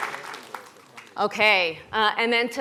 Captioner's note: applause